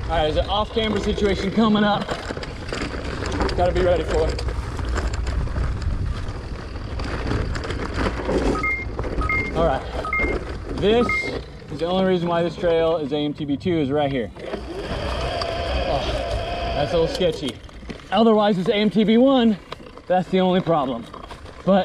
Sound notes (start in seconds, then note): 9.0 beeping; 14.9 bike whirring